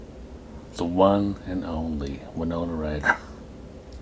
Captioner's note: coughs